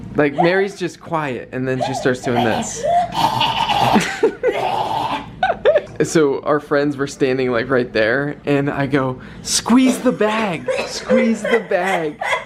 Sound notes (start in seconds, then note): 1.7 gasping, coughing, and making awful noises; 5.0 chuckling